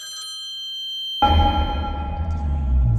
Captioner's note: elevator dings